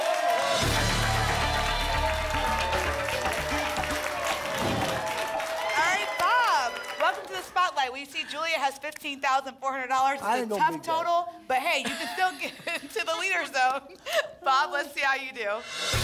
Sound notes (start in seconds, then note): 0.0 applause and cheering cont; 4.5 whoosh